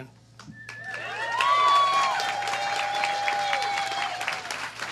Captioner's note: applause